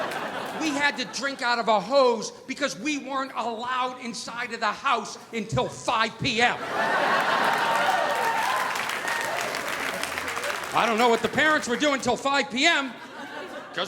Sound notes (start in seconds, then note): 6.4 audience laughing; 6.7 audience applauding